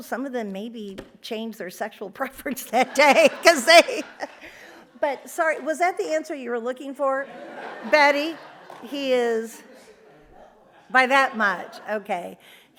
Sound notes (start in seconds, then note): 2.7 audience laughs; 7.2 audience laughs